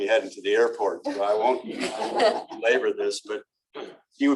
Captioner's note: laughter